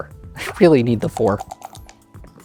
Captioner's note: dice rattling; dice rolling